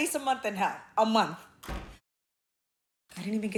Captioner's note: door thudding